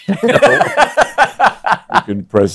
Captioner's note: laughing; laughs